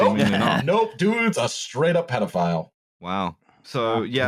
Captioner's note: laughs